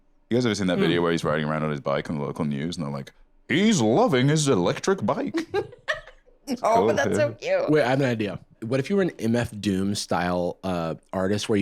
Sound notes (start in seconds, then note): 5.3 laughs